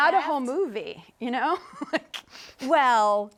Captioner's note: chuckling